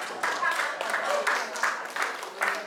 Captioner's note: applause